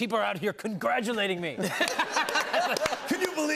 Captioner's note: laughter